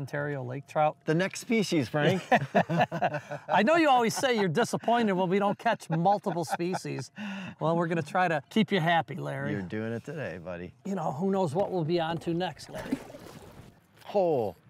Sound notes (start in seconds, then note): 2.1 laughs; 12.7 fish plops